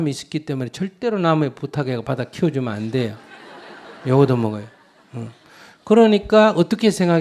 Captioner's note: audience Laugher